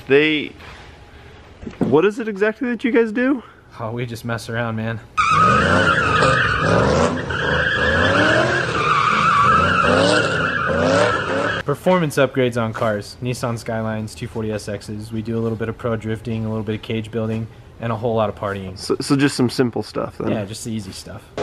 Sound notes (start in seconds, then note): 5.2 tires screeching; 5.2 engine revving